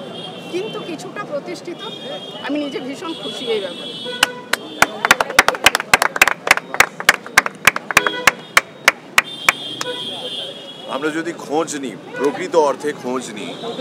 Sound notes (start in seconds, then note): 4.5 sound of claps